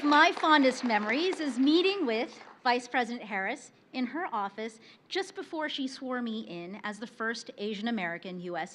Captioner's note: applause